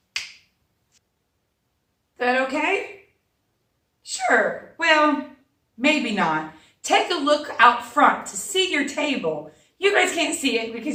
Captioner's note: fingers snap